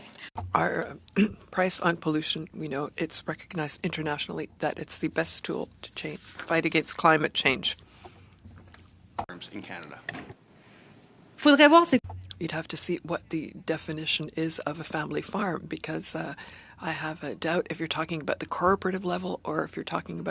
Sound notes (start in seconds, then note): 2.5 speaking French; 15.9 speaking French